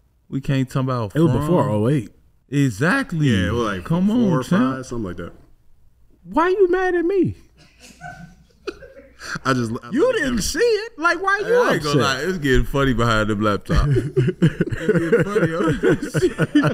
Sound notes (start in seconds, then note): 7.6 observers laughing